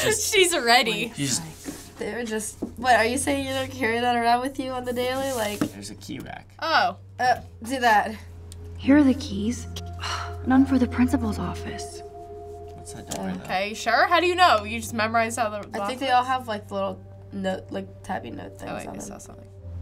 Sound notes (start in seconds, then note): 0.3 laughs; 10.0 scoffs